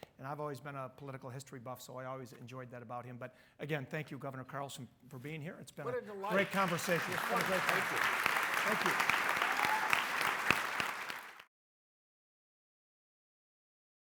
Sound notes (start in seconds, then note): 9.5 audience applauding